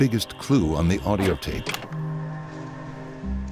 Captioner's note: clicking; sinister music